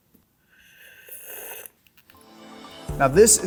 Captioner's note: heavily sipping liquid